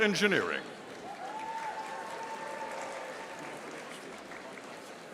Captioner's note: audience applauding